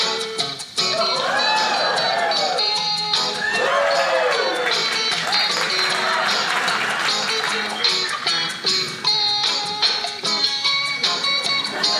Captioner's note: audience cheering; audience laughing